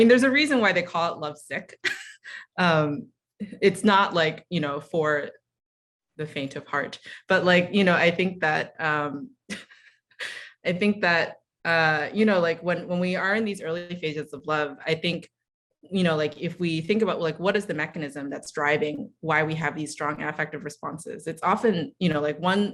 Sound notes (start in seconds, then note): 1.8 chuckle